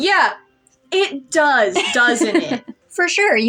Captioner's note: laugh